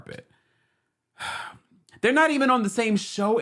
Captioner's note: sighs